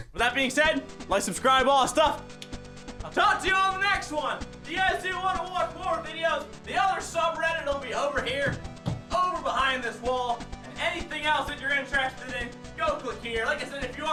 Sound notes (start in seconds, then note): 8.2 pats wall